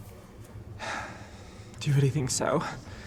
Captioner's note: Tristan sighs